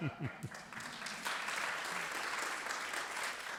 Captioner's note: applause